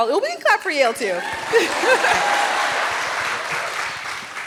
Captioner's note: cheers